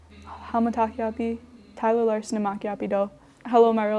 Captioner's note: speaks in foreign language